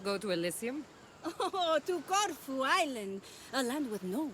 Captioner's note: laughing